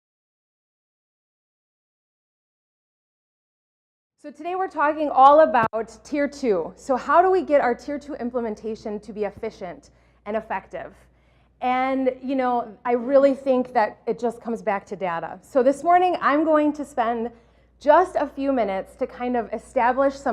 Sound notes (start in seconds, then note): 1.1 silence